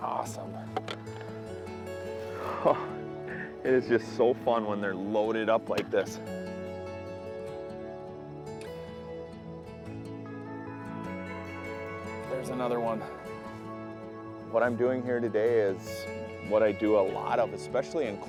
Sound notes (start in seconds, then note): 2.2 laughs